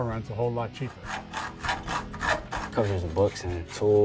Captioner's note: sawing noise